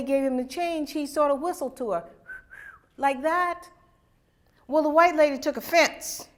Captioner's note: whistles